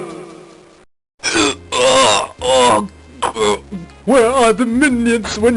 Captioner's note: grunts in constipated agony